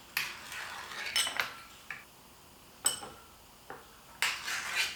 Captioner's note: plates clattering